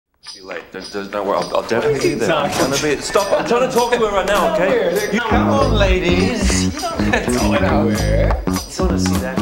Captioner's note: achtergrondgesprek